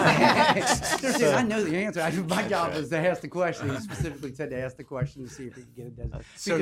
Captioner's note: laughter